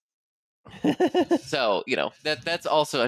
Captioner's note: laughs